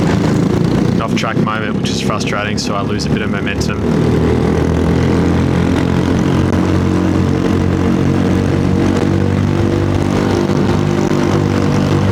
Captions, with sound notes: Off track moment, which is frustrating so I lose a bit of momentum. [engine noise]